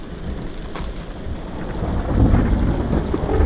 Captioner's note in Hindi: भारी बारिश; बादलो की गड़गड़ाहट और बिजली की आवाज